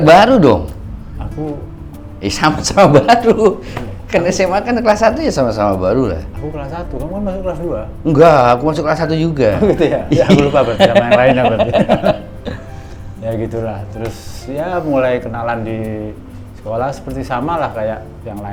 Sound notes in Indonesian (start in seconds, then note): 9.6 tertawa